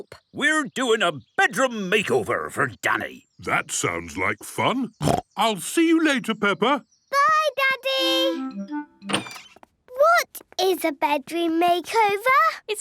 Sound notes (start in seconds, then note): 5.0 snorting